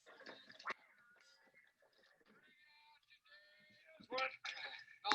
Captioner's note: men murmuring